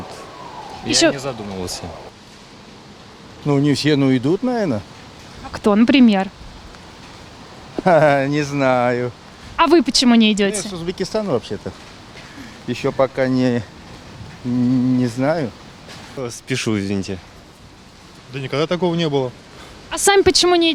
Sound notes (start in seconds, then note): 7.7 laughs